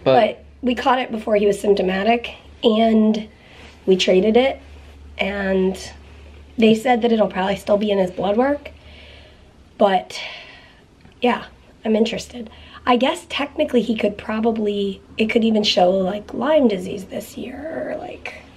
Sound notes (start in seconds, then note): none